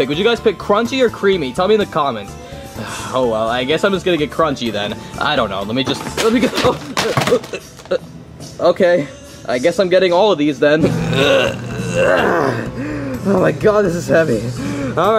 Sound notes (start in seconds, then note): 5.8 objects thudding; 10.8 grunting